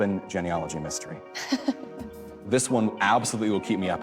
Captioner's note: chuckles